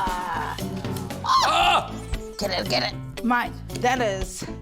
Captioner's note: both yelp